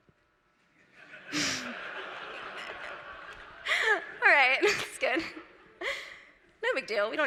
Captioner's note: laughter